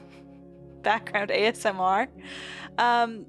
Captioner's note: between chuckles